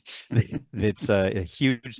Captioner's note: laughs